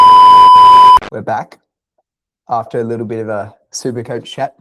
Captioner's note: beeping